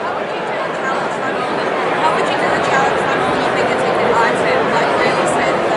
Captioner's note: crowd drowning out question